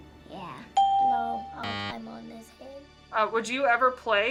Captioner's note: ding